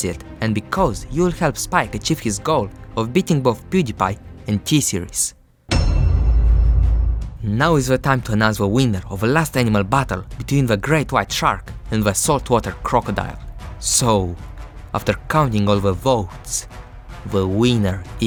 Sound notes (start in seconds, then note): 5.7 dong